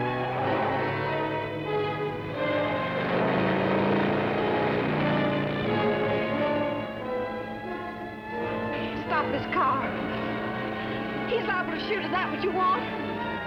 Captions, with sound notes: (siren blaring) - Stop this car. He's liable to shoot, is that what you want?